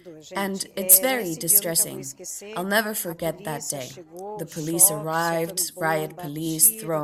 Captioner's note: in Portuguese